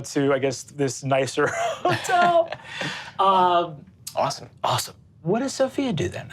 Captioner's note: laughs